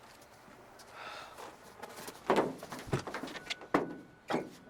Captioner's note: Ozz sighs